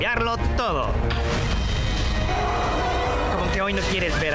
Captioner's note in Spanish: sonidos de caída y rugidos